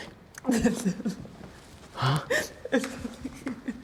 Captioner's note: sobbing; Isabel weeping